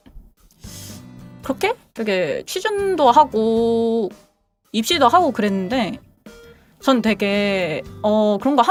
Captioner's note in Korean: 콧방귀